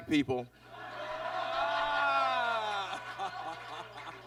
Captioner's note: audience laughs